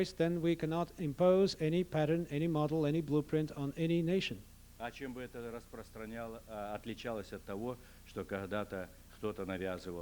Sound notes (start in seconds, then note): 6.3 non-english speech